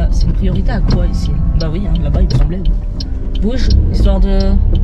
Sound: none

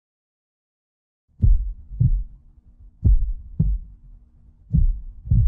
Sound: heartbeat pulsing

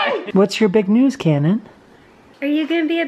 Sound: voiceover

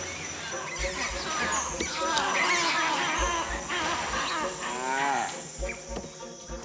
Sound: monkeys screeching

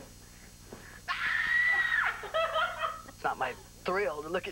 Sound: laughter

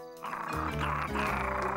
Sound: muffin growling

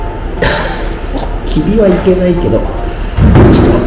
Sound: laughs

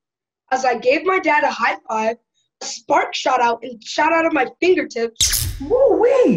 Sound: zap

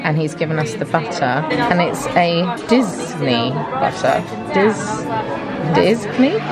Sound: speaks foreign language

